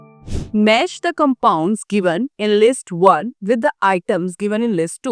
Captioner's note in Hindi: नाक से की जाने वाली आवाज़